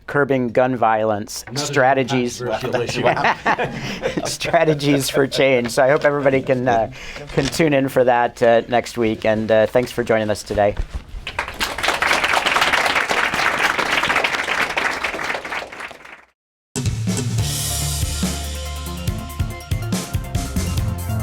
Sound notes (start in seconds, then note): 11.2 applause